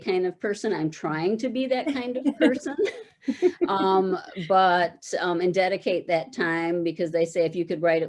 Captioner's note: chuckle